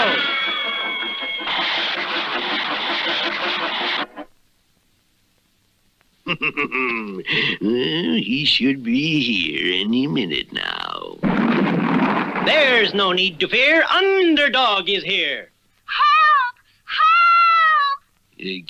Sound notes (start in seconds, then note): 6.2 Simon Bar Sinister Laughs; 11.2 crash!